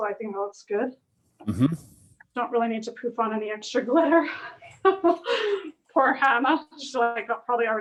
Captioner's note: laughs